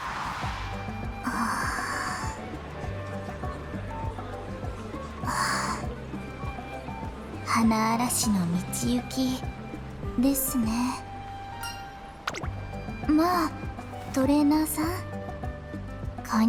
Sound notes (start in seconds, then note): 1.2 sigh